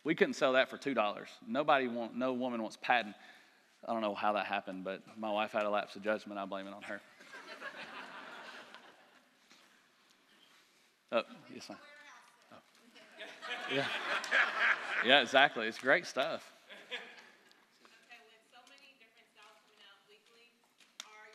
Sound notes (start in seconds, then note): 7.1 laughter; 12.9 laughter